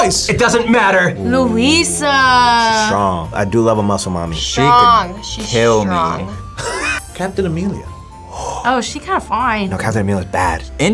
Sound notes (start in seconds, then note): 6.6 laughs